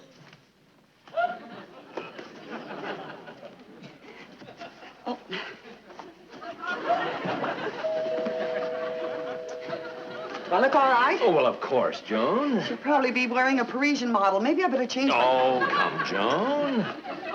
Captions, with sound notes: (audience laughing) - Oh. (audience laughing) (doorbell ringing) (audience chuckling) - Do I look all right? - Oh, of course, Joan. - She'll probably be wearing a Parisian model, maybe I better change my- (audience laughing) - Oh come, Joan.